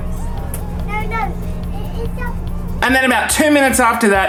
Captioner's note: child babbling